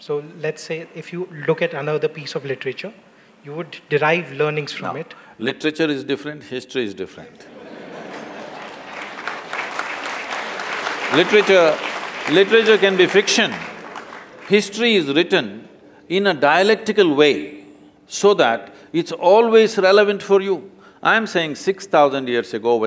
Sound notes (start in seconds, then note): 7.4 laughter/Applause